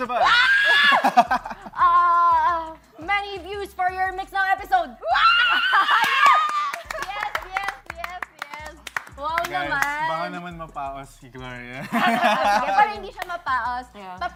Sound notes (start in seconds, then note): 0.0 laughing; 6.0 applauding; 11.8 laughter